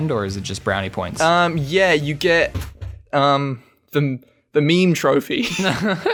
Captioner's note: laughs